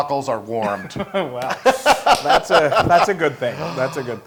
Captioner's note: laugh